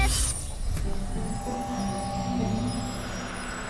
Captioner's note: magical buzzing